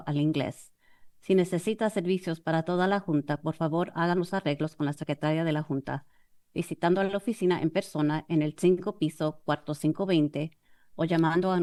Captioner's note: foreign language